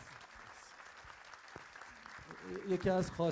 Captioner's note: crowd applause